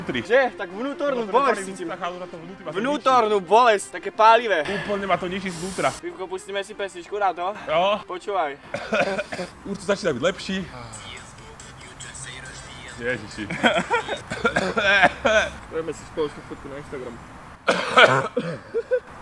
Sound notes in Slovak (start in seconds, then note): 13.5 zvuk, ktorého príčinou môže byť bronchiálna astma